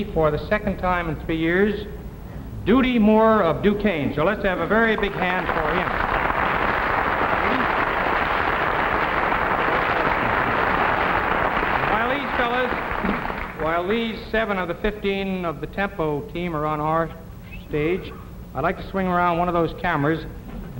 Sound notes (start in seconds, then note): 8.5 audience clapping; 9.8 clapping drowns out speakers